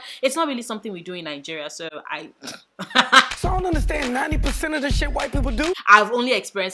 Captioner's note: laugh